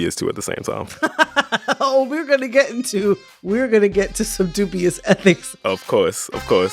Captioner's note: laughter